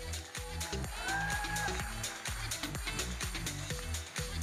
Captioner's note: audience cheers; electronic dance music